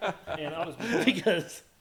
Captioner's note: laughing